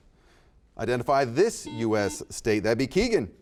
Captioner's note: buzzer beeps